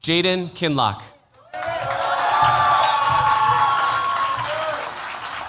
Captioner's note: cheers, applause